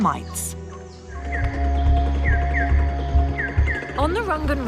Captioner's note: birds chirping; dramatic music